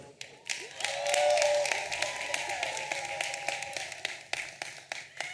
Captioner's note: audience applauding and cheering